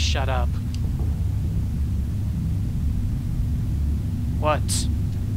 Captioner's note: thumping noises